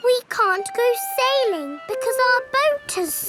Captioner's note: none